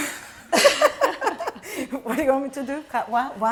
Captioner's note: laughter